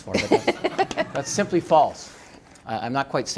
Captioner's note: laughter